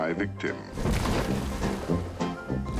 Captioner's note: crashing